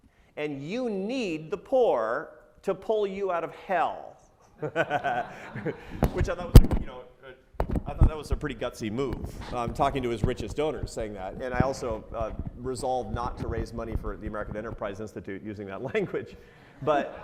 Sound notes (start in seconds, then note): 4.6 laughs